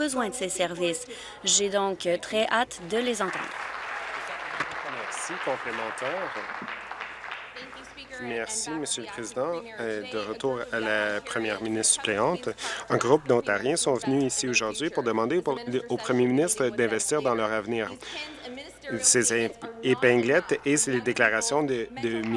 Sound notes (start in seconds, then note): 5.5 applause